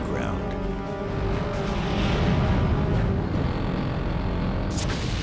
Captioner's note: blast sound